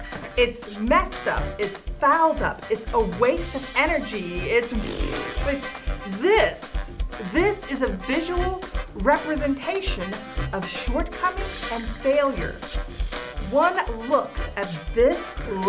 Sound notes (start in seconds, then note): 4.6 blows raspberry